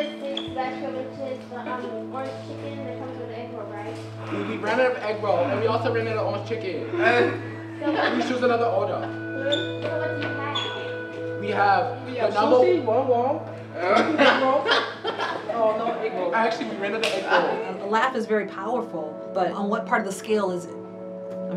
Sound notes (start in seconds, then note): 6.8 students laughing